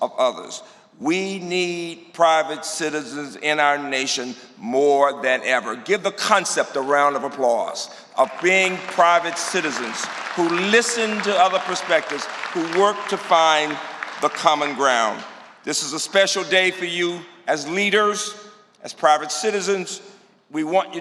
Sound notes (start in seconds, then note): 8.2 applause